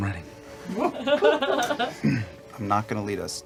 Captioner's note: laughter